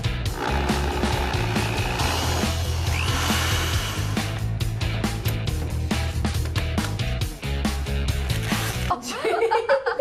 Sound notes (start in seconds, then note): 2.5 whirring